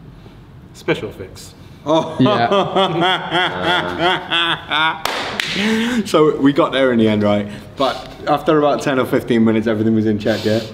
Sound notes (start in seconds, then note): 1.9 laughs; 5.0 clapping